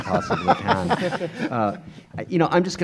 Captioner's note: laughing